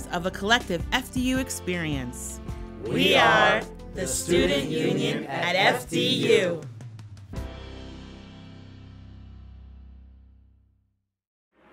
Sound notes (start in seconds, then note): 3.0 voices in Unison